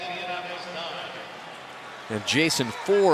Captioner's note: pa announcement